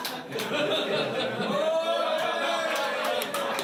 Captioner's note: all cheering and laughing